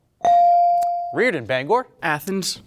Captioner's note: bell dings